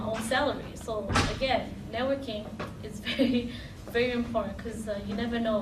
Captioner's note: laughing